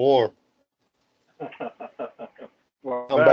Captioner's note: laugh